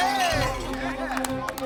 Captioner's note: cheering, applause; clay pigeon explodes; gunshot